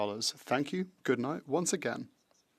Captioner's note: speaking French